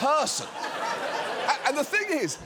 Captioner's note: audience laughing